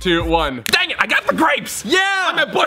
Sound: snap

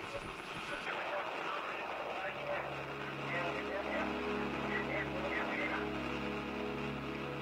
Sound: radio

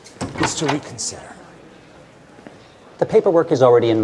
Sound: none

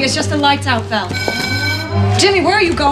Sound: alarm bell

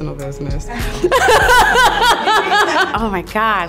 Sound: laughing

